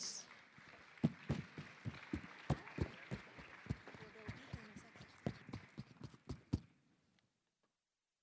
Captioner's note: applause